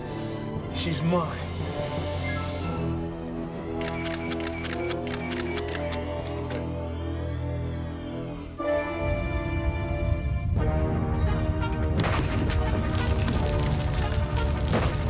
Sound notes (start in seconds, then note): 3.8 <i> shutter clicking</i>; 8.9 <i> rumbling</i>